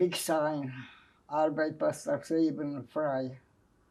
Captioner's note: german